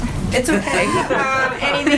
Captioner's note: laughter